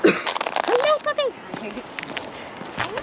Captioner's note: coughs